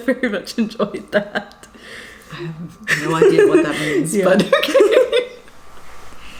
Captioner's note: laughs